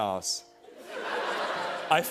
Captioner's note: laughter